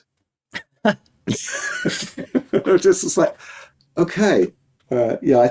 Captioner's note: both laughing